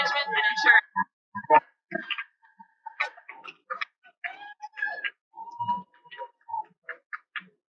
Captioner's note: cheering